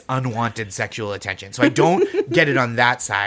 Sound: laughs

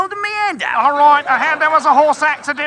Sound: in burly British voice

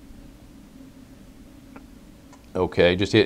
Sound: pause

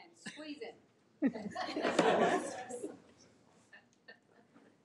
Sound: all laughs

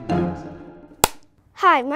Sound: clapperboard snaps

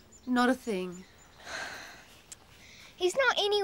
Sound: sighing

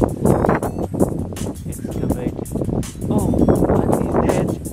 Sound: wind

